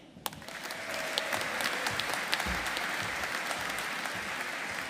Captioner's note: audience applauding